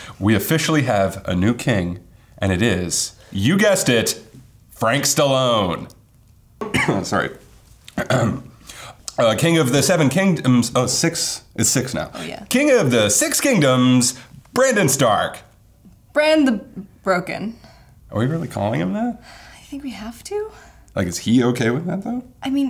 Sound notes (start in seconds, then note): 7.9 coughs; 7.9 clears throat